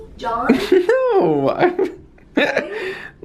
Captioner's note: chuckling